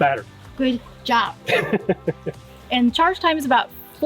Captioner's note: laughing